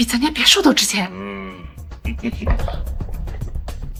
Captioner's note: chuckle